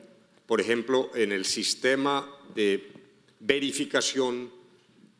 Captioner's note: speaking in foreign language